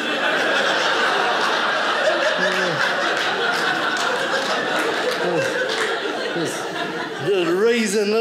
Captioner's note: audience laughing